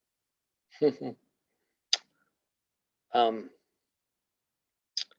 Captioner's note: chuckles